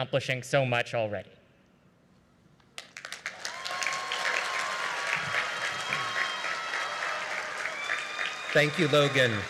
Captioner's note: cheering; applause